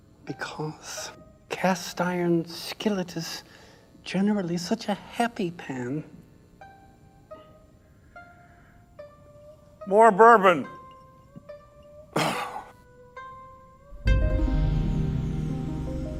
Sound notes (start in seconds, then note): 12.1 burp